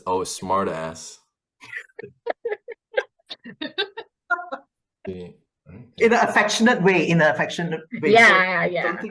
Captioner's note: laughter